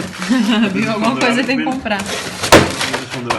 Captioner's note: laughing